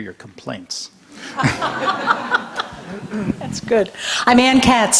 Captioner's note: audience laughter